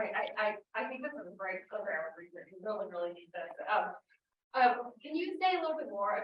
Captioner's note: audio blurs